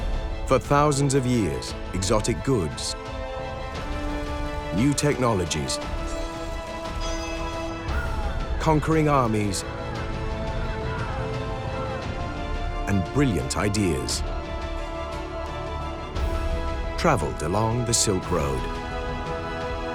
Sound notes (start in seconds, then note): 10.0 shouting